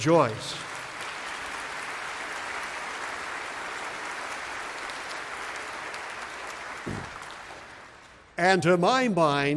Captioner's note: applause